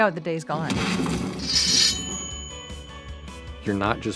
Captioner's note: metal rings